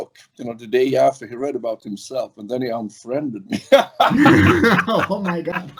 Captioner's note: laughs